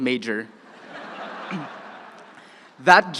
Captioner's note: crowd laughing